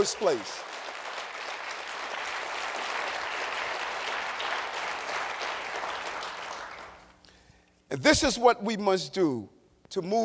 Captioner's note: applause